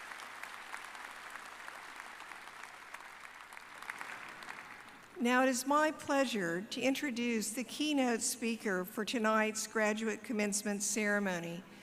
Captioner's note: applause